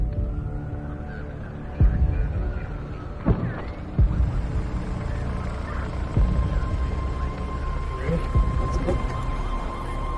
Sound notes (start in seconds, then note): 0.1 sirens blaring; 0.6 people chattering; 5.4 police radio chattering